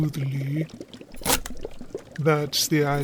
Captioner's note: slicing